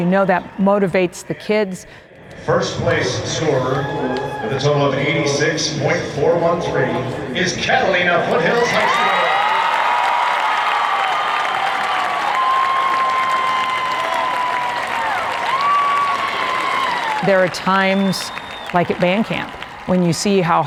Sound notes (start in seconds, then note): 10.5 crowd cheers